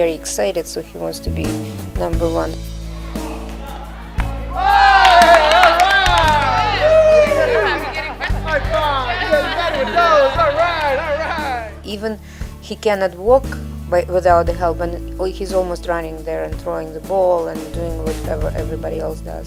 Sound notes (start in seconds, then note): 8.2 cheering and Clapping